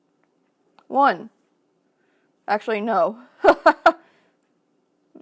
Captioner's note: laughs